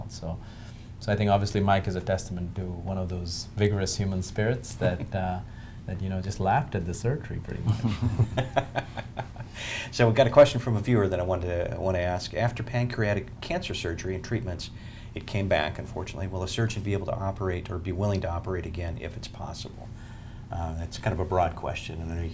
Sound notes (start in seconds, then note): 7.6 laughter